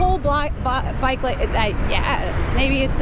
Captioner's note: stammering